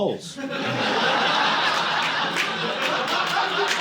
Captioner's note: audience laughing